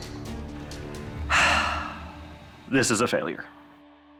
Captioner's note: sighs